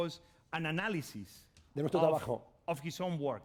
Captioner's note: speaking spanish